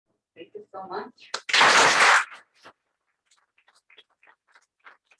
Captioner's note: applause